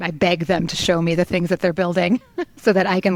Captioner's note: chuckles